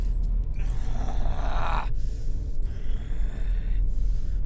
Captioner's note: Brocheet growling